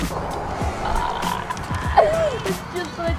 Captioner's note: laughter